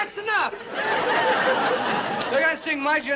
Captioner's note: crowd laughs; yelling